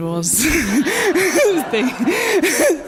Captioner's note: laughter; laughs